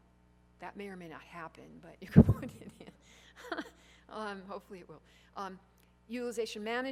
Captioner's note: laughs